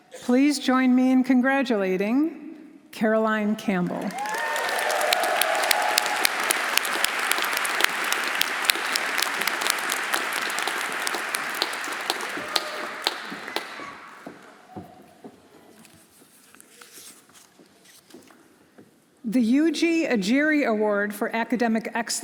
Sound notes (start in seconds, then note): 3.8 audience applauding; 4.0 audience cheering